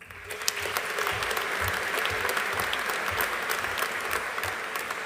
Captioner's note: audience applauding